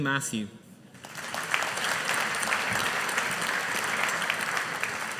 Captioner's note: audience applauding